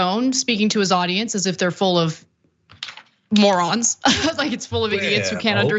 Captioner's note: laugh